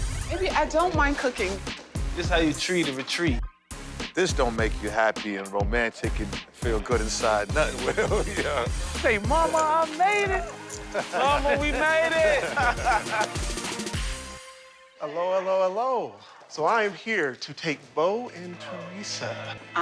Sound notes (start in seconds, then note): 8.3 laughs; 13.2 laughter